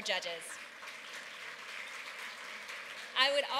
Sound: applause

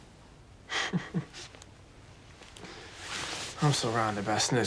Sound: Jake laughing

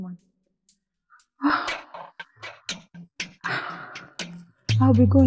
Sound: sigh

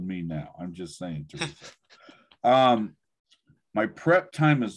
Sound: chuckles

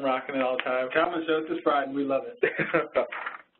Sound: voiceover

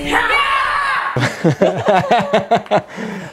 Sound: laughing

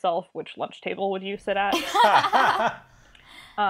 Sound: laugh

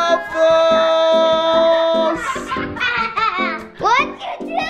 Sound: boys laughing

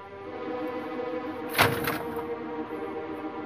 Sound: thuds

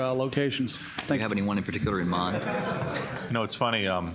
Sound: laughter

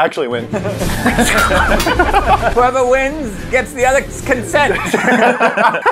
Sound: swords clashing

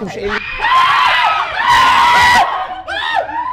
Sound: screams

